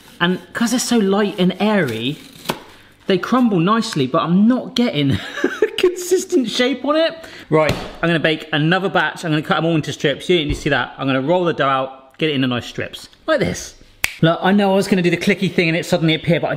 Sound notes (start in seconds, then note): 14.0 finger clicks